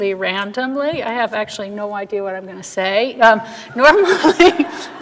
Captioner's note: laughing